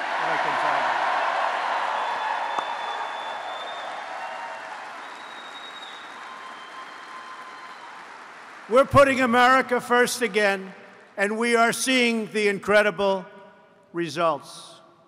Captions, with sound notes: (Applause) We're putting America first again, and we are seeing the incredible results.